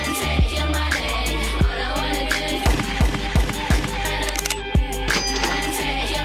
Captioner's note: gunshots firing